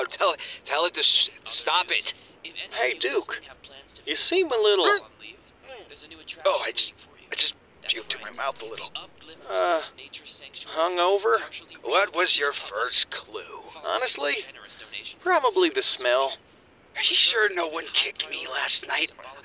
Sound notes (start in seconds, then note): 5.7 vomits